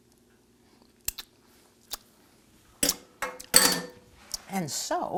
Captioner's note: lips clicking